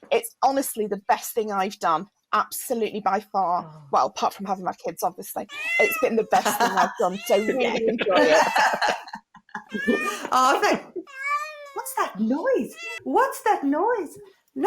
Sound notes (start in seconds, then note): 6.3 laughter; 11.0 meowing